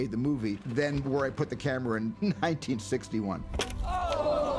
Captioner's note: chuckles